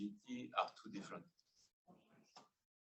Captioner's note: speaking faintly